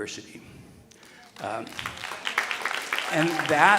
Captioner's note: audience applauding